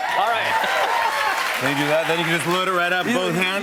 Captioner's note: cheers and applause